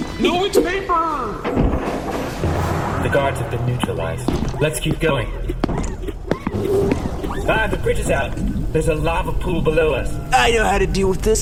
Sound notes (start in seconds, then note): 6.6 door opens